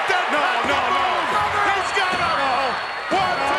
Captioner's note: announcers yelling